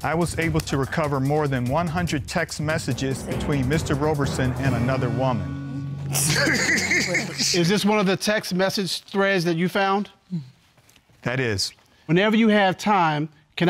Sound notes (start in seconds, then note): 6.2 laughs